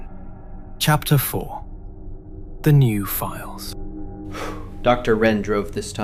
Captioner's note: exhales sharply